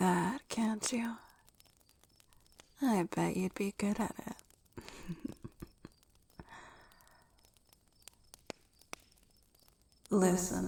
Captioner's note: chuckles; echoing